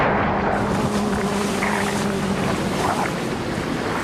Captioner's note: splash